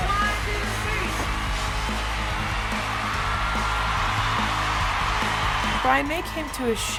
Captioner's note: cheering